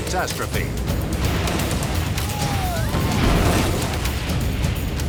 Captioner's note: boat crashes